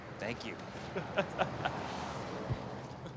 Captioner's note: laughs